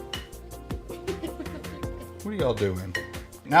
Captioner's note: giggling